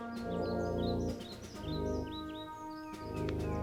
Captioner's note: birds chirping